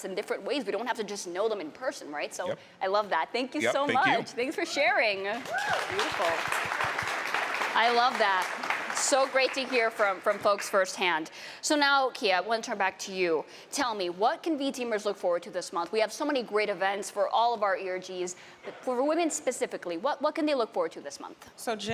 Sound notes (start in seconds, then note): 5.3 applause